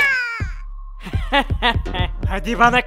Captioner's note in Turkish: Kahkaha sesi